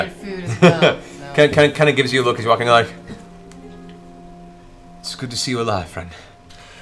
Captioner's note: laughs